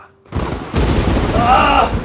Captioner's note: thunder